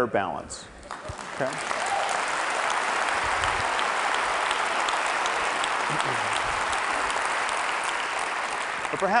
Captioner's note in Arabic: تصفيق